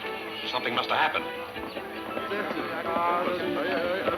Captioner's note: people murmuring